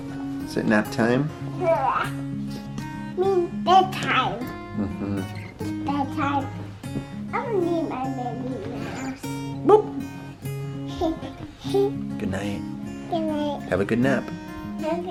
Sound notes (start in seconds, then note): 10.8 giggling